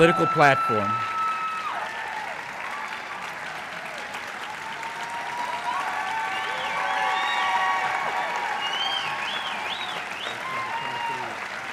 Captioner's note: applause